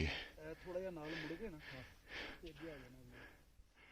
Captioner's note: chatting